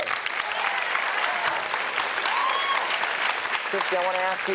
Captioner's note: audience cheers and applauds